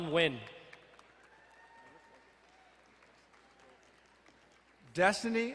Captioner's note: crowd cheering and applauding